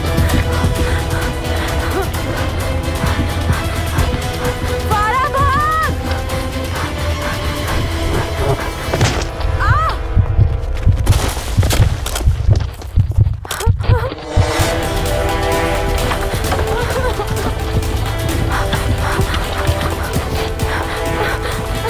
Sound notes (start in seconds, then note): 0.0 Gasping; 9.4 Sobbing; 9.7 Screams; 10.8 Heartbeat; 17.0 Gasping; 17.0 Sobbing